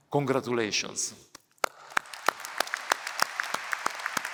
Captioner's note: applause